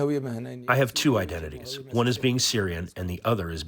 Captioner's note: through translator